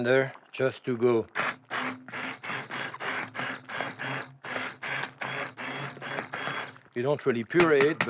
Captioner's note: blender whirring